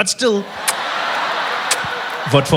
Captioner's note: kissing